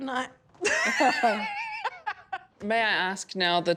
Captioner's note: laughs loudly